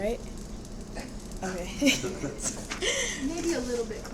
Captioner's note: laughs